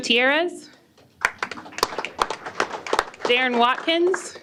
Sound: applause

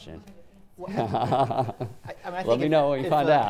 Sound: chuckling

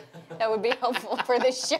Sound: laughing

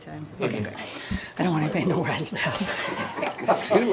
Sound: laughs

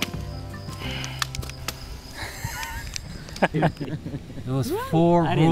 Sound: sighs heavily; both laugh

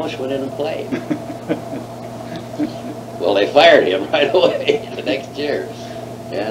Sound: laughs

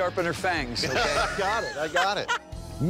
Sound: laughter

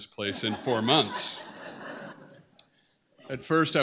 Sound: laughter

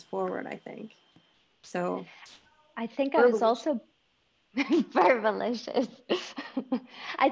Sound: laughing

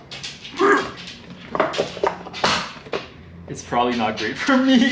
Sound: grunting

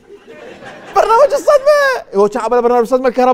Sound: shock

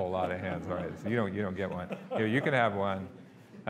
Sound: audience laughing

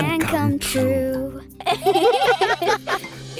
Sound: laughing

